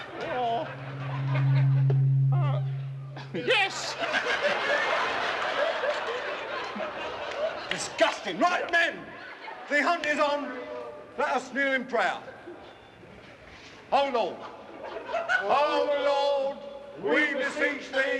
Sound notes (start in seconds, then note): 0.0 microphone feedback ringing; 3.9 crowd laughs